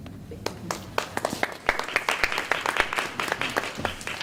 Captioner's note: applause